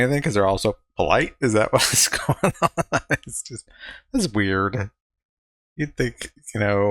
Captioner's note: laughing